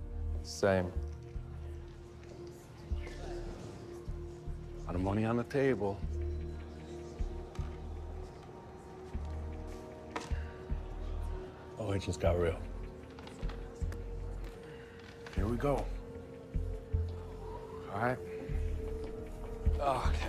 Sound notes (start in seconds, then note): 3.8 exhales